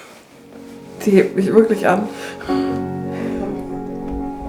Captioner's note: laughing